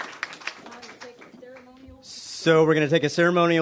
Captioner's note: applause